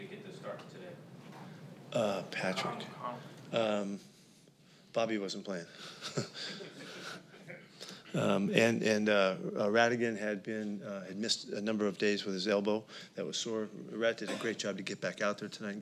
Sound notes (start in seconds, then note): 5.8 laughter